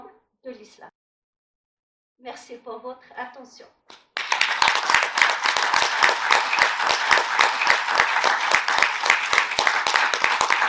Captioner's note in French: applaudissements